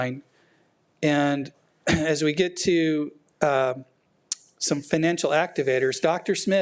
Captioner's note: clears throat